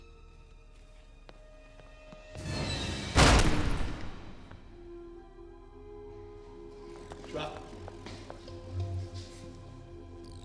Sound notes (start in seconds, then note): 2.2 dramatic music; 3.1 gunshot fires